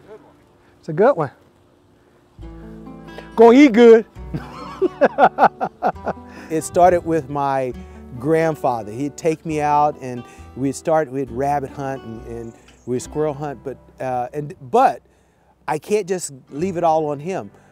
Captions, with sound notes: >> IT'S A GOOD ONE. >> GO, HE GOOD! (chuckles) IT STARTED WITH MY GRANDFATHER. HE'D TAKE ME OUT AND WE'D START WITH RABBIT HUNTING AND WE'D SQUIRREL HUNT, BUT I CAN'T JUST LEAVE IT ALL ON HIM.